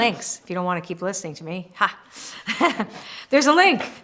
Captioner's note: laughter